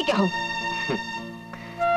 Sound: chuckles

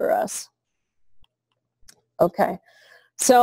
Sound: pause

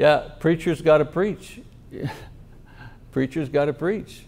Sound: chuckles

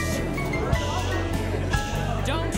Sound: patrons talking loudly

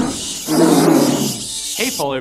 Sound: bat sound; roar sound

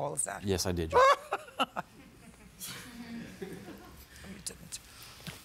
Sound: laughs

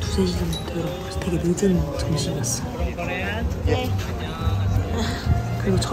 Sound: sigh

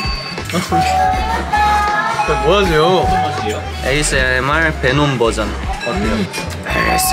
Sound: failed to hold back laughter

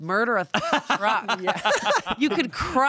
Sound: everyone laughs

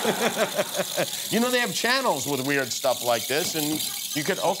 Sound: laughter

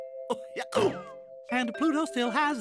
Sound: hiccups

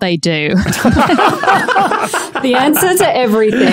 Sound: group laughing

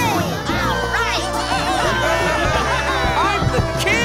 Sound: cheering

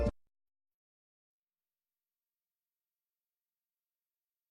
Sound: silence

